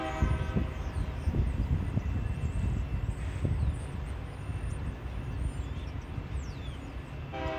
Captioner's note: wind howling